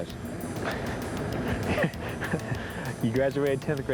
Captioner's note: officer chuckling